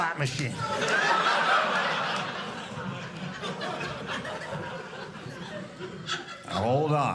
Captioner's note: audience laughing